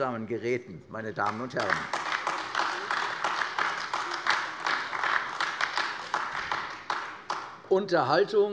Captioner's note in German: Beifall AfD